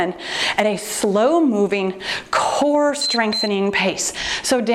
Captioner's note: timer beeps